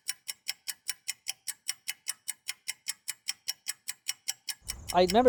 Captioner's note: clicking